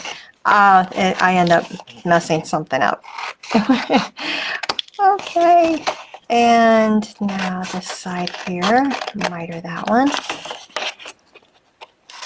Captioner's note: laughing